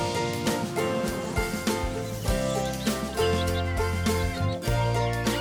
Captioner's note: kids giggling